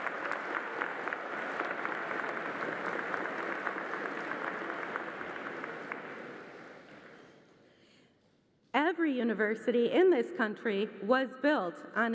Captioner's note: applause